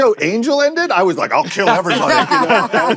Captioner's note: laughter